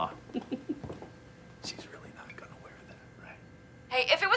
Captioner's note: whispers